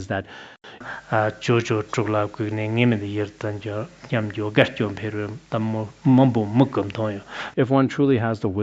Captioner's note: citing scripture in Tibetan